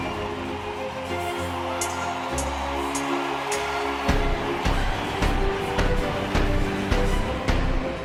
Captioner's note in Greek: χειροκρότημα